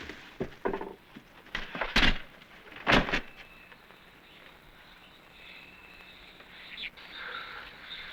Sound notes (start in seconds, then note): 2.3 birds chirping